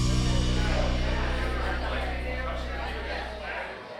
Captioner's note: patrons chatting